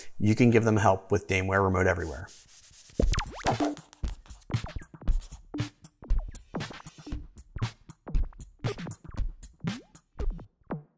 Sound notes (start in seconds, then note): 1.9 board erasing; 3.0 upbeat music